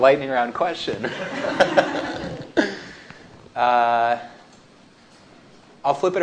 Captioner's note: laughter